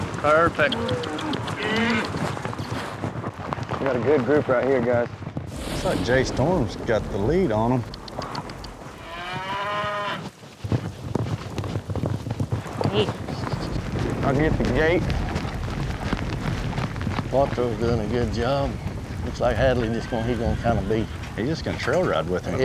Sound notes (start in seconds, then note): 9.0 mooing; 10.5 hoof beats; 15.2 hoof beats